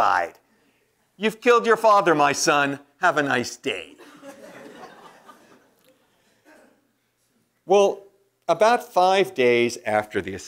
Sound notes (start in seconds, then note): 4.0 laugh